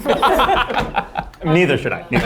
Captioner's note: judges laughing